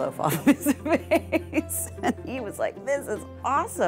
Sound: laughing

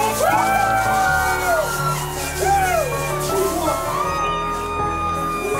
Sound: cheering

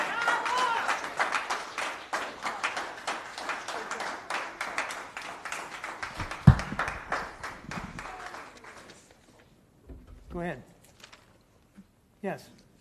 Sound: applause

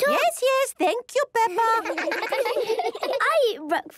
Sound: children laughing

